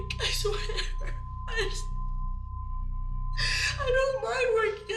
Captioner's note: sobbing